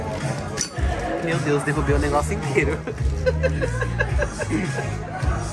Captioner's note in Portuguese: risos; música tocando ao fundo